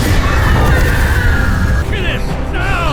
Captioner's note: urlo